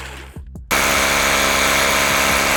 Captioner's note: whhhhhhiiiiirrrrrrrrr; more whhhhhhhhhhiiiiirrrrrrrrrrrrr